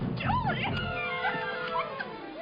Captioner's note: camera clicks